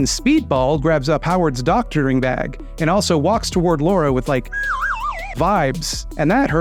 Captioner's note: slide whistle noise